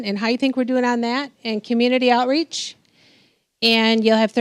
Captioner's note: none